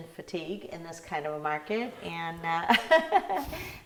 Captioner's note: laughing